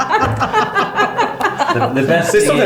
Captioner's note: laughing